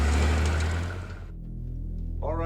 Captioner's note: vehicle rumbling